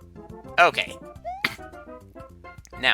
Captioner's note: clears throat